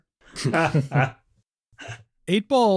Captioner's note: laughter